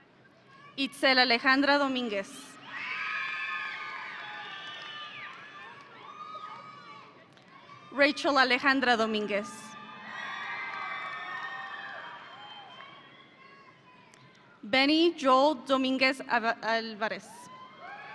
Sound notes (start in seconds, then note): 2.6 audience cheering; 9.6 audience cheering